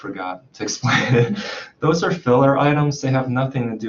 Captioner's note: chuckles